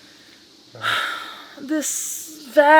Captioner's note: sighs